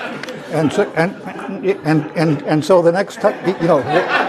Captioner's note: laugh